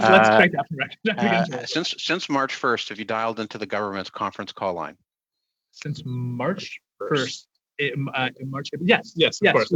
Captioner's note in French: voix de l'interprète